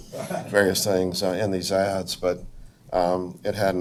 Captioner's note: audience members laugh